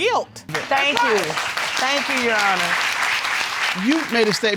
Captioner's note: audience clapping